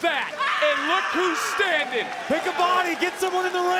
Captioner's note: Cora screams